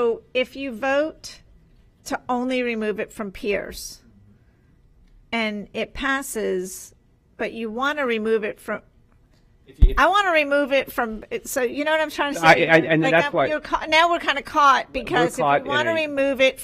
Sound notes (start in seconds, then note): none